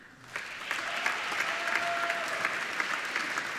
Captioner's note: applauding